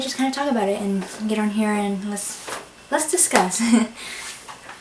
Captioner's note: laughs